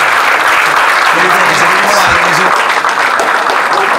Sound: audience clapping

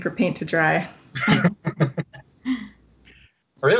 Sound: laughs

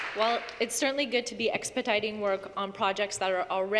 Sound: applause

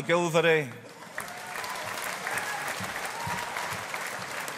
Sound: audience applauding

